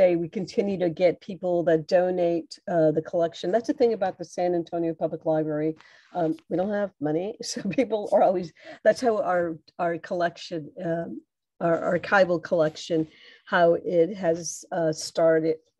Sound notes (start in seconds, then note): 7.3 laughter